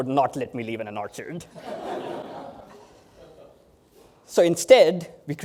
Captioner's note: laughter